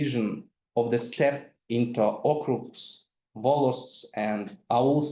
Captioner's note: speaks in foreign language